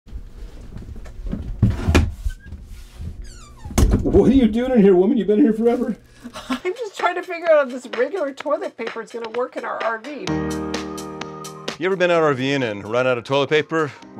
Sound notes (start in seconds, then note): 2.9 door opening sound; 10.3 upbeat sound